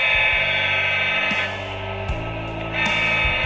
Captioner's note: horn blaring